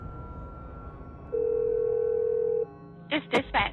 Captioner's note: phone ringing